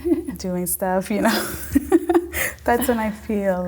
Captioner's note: laughing